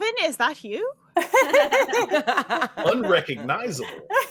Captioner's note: all laughing